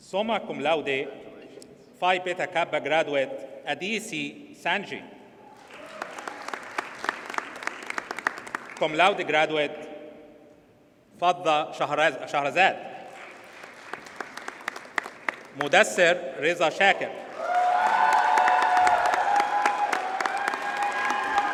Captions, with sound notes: Summa Cum Laude, Phi Beta Kappa graduate, Adisi Sanji. (audience cheers and applauds) Cum Laude graduate, Fadha Shaharaz Shahazel. (audience applauds) Mudassar Raza Shakir. (audience cheers and applauds)